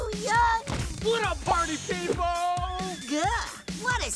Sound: man yelling

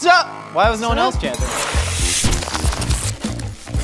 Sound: knife slicing; explosion; knife slices

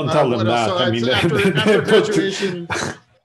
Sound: laughing

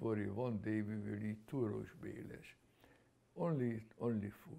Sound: non-english

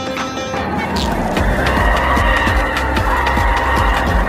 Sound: screaming

